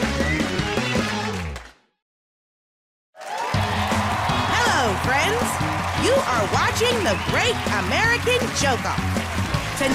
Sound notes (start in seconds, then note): 3.1 cheers and applause